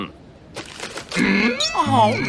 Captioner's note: Plays one of ten iconic Michael Rosen sounds